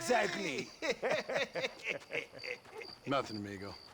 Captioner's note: laughs